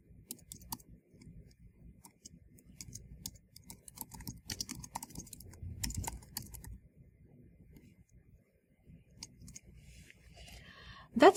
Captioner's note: pause